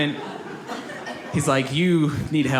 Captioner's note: audience laughs